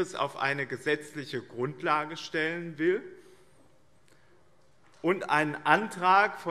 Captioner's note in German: none